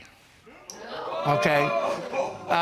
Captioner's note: audience gasping